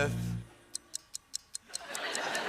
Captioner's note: clock ticking; laughter